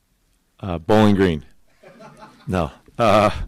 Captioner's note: audience laughing